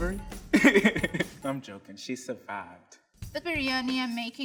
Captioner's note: chuckling